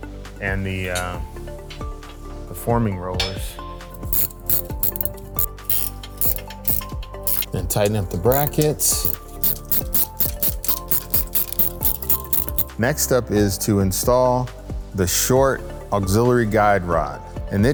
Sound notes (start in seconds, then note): 3.9 ratcheting; 9.2 ambient music; 9.2 ratcheting